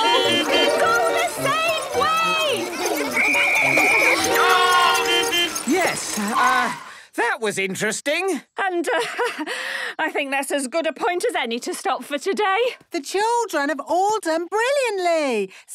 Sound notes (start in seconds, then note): 0.0 beeping; 3.1 whistle blowing; 5.0 beeping